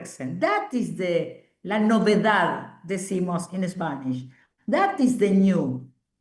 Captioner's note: speaks in Spanish